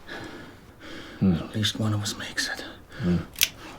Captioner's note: gun clicks